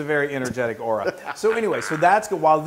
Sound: laugh

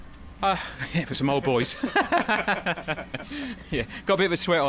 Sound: laughing

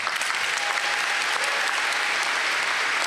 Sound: applause

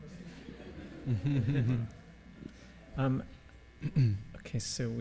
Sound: laughing

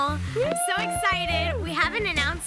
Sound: cheers

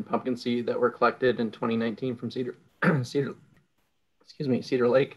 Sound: clears throat

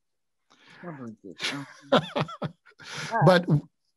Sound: laughs

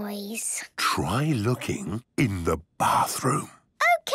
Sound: whispering

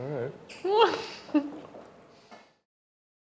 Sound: laughs

